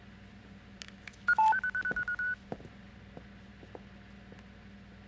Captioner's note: machine beeping